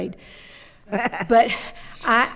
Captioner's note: laughing